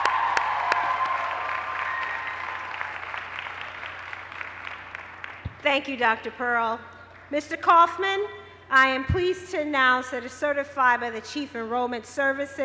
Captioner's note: cheers and applause